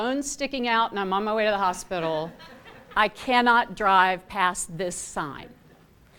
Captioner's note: laughter